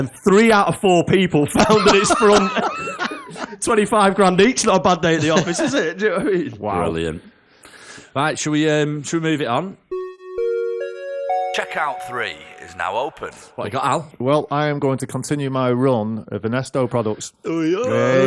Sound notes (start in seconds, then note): 11.1 chime